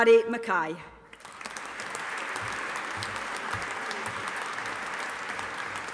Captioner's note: audience applauding